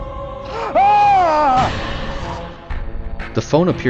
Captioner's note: yells in shock and terror